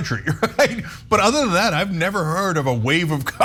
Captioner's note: laugh